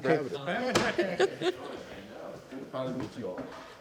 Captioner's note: laughter